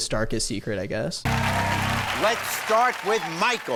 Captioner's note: audience clapping